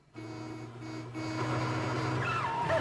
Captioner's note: horn honking